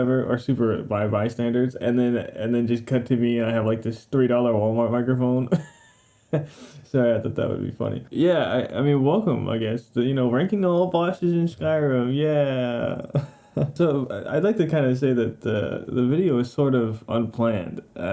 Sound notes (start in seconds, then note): 5.5 laughing x3